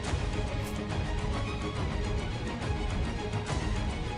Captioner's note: sword whooshing